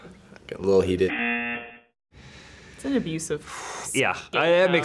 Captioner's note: buzzer